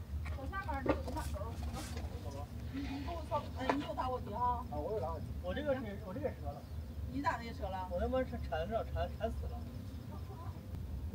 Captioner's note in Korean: 몇시간 째 들리는 중국인 목소리